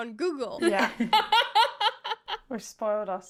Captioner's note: laughing